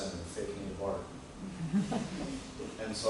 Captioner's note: laughter